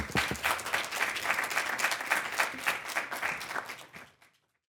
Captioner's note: audience clapping